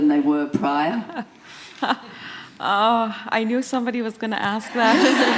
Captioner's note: laughter